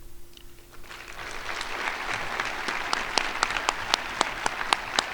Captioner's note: crowd applauding